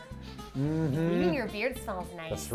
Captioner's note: sniffers